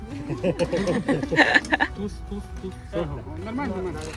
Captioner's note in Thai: เสียงหัวเราะ